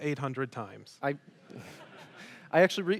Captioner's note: audience laughs